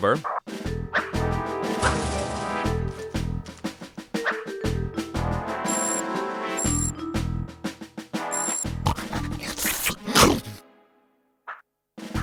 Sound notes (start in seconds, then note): 8.6 sniffing; 8.6 chomp